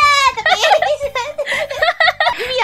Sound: laughs

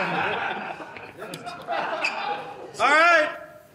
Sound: laughter; laughs

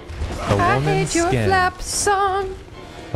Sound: advert voice

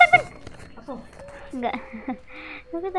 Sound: laugh

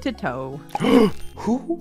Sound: gasp

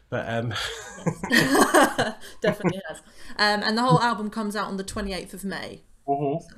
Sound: laughter

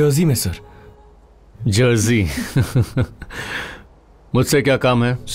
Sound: laughing

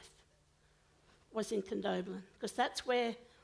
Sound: foreign language

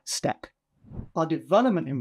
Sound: transition whooshing

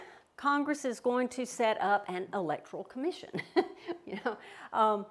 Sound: chuckles

